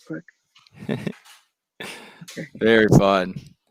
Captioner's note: laughs